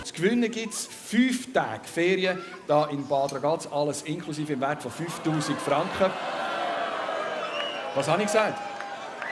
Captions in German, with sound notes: Zu gewinnen gibt es 5 Tage Ferien Hier in Bad Ragaz alles inklusive im Wert von 5'000 Franken [wird ausgebuht] Was hab ich gesagt?